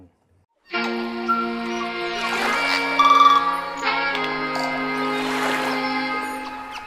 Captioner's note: calming music; beach sounds